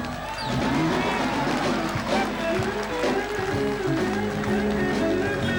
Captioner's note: all cheering and applauding